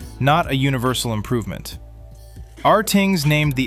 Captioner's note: thoughtful